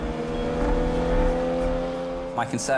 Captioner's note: engine revving